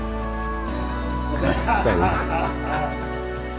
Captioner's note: laughing